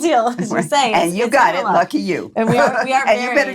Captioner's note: laughs